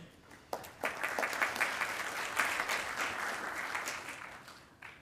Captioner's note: attendees applauding